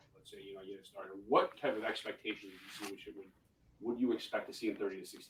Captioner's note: voice muffling; voice muffling